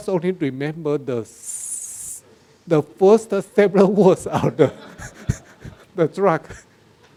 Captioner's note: laughs